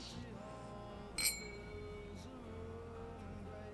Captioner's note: glasses clinking; soft music